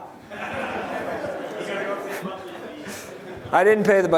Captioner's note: chatter; laughter